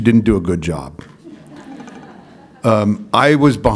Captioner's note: laughter